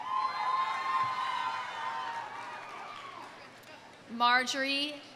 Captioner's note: audience cheering; audience applauding